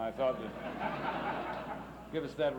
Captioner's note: laughs